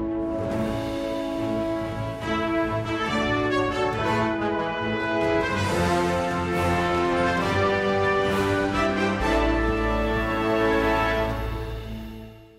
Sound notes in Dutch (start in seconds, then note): none